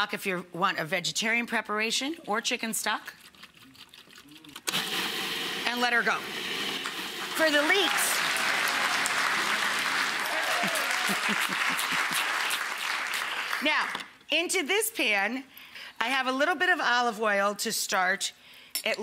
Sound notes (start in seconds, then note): 4.6 food processor whirring; 7.1 audience applauding; 10.6 Rachael giggles; 11.1 audience applauds and cheers